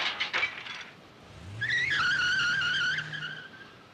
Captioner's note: tires squealing